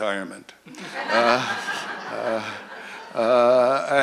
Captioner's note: laughter